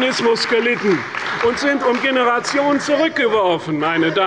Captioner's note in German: Beifall und Zurufe von der CDU